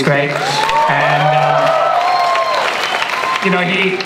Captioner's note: audience cheering and applause